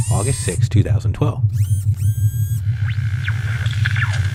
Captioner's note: rover sounds